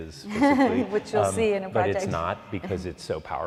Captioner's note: laughs